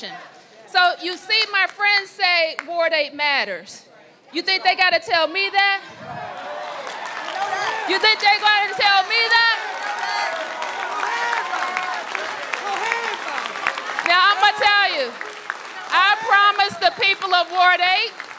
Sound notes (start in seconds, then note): 7.1 applause